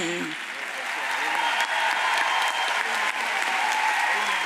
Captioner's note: audience applauds